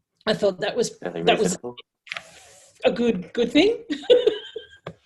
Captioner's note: laughs